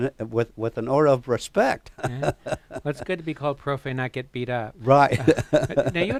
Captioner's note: laughs